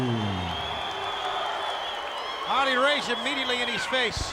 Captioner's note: applause